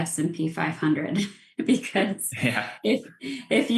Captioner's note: laughs